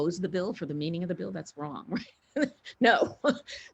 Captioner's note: laughs